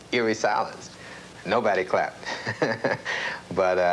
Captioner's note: laughter